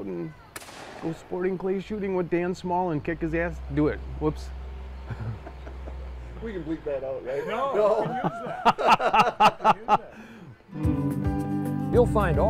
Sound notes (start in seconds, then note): 5.0 laughing; 8.1 guys laughing; 10.7 upbeat folk music